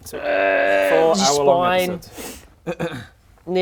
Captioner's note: urgggh